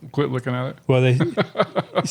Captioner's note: chuckles